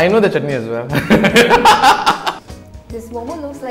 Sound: laughs

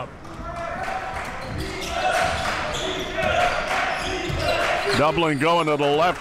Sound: crowd cheering

